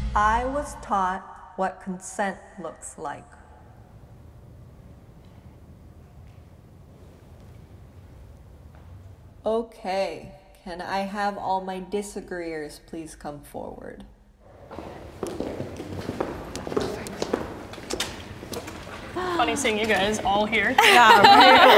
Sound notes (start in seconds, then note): 14.5 shoes thudding; 20.6 group laughing